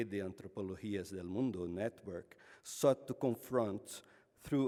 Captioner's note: speaks foreign language